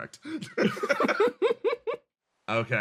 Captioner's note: laughs